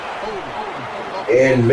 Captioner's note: crowd Noises